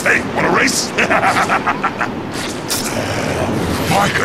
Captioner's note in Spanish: Se Ríe